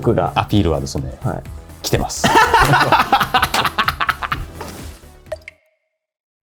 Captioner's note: laughs